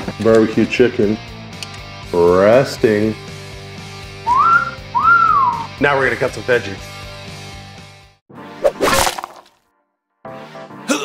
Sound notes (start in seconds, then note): 0.0 upbeat rock music; 4.2 whistles; 7.9 tomatoes hitting board